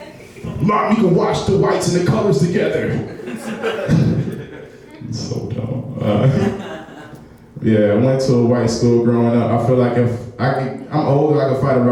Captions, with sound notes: Mom you could wash the whites and the colors together! (laughing) so dumb. Yeah I went to a white school growing up I feel like if I'm older I can fight